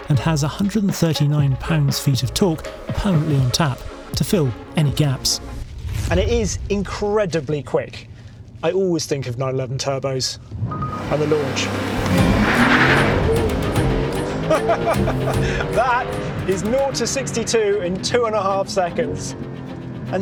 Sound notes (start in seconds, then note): 12.9 engine revving; 14.2 laughs